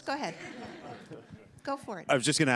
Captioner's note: laughter